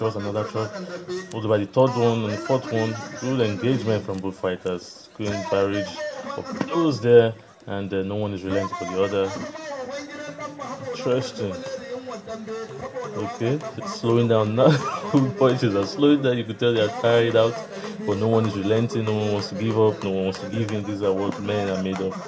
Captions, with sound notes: in quick successive thrusts. Pulls in a third one and fourth. Full engagement from both fighters. No one is relenting for the other. Interesting! They are slowing down now (Laughs) and you could tell they are tiring out. But no one is relenting, no one wants to give up, no one wants to give in.